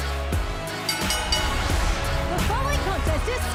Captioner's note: bell